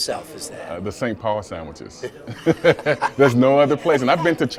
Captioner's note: laughs